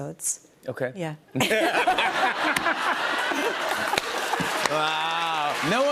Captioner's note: laughter